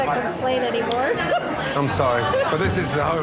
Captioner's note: laughing quickly